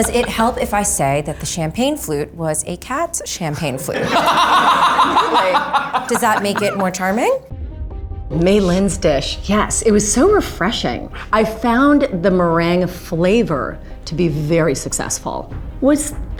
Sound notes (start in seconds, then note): 0.0 intense music; 4.0 laughs; 8.2 intense music